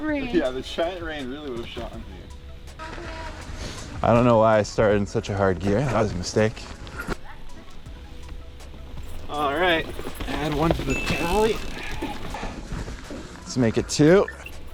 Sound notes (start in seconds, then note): 3.0 air whooshing; 11.6 wheels whooshing